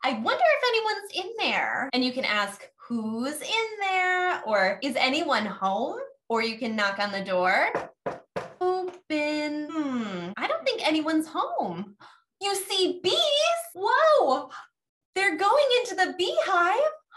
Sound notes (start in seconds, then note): 7.6 knock, Knock